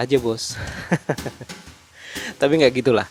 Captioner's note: laughing